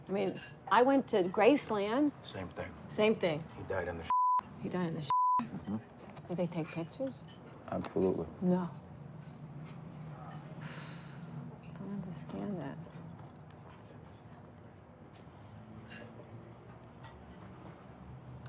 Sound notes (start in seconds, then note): 10.8 sighs